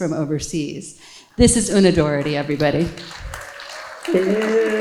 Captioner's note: audience applauding